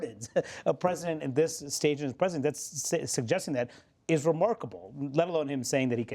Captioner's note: laughter